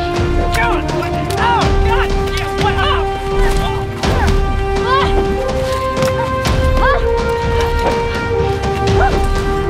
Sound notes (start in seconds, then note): 5.7 cries of exertion